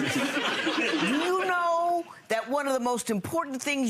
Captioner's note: crowd laughing